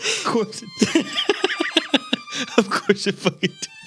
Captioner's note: laughing